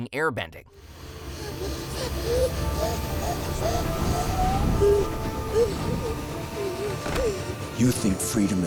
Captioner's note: gasping